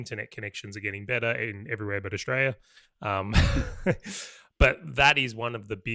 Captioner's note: laughs